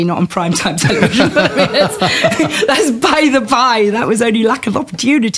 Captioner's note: laughter